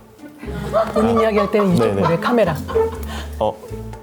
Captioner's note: staff laugh